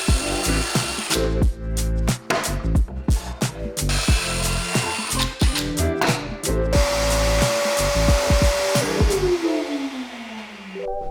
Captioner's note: drill Whirring